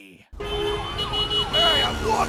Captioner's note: loud traffic